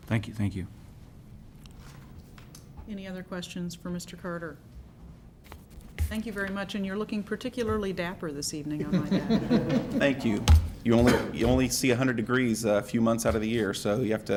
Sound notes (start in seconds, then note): 8.7 laughter